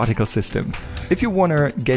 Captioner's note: air wooshing